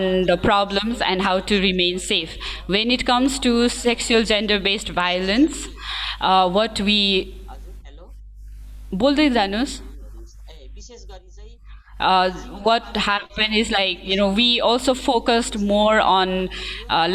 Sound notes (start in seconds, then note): 7.2 speaking in a language other than English